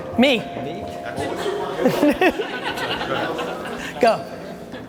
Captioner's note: laughs